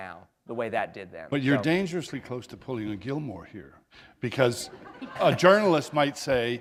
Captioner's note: laughter